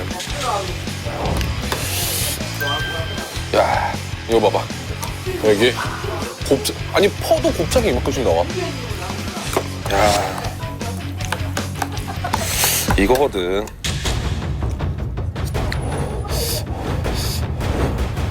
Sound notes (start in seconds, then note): 16.2 blows